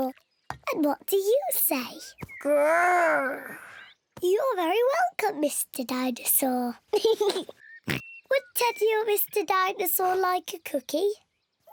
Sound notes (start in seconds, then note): 6.9 giggles and oinks